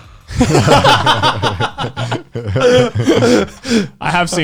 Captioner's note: all laughing